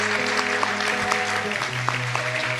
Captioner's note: applause